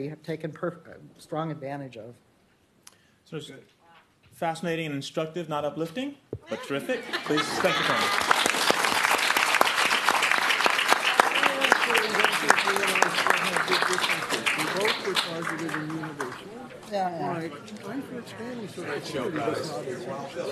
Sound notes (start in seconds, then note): 9.8 applause; 11.5 chattering